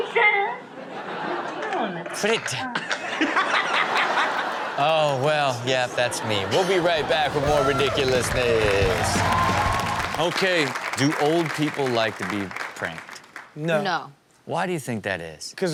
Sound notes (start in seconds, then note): 2.6 Sterling and audience laughing; 8.8 audience cheering; 8.8 rock music